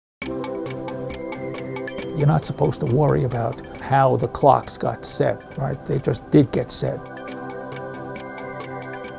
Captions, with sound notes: (ticking clocks) - You're not supposed to worry about how the clocks got set, right, they just did get set.